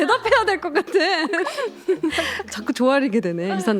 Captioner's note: haha